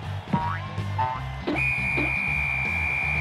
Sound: whistle

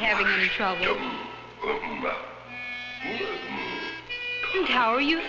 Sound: speaking in a foreign language

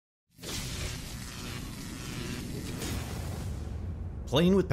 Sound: electricity crackling

